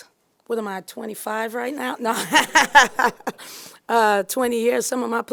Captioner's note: laughing